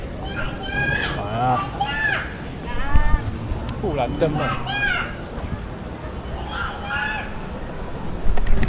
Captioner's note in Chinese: 意義不明的孩童呼喚聲